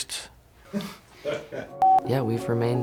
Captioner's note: people laugh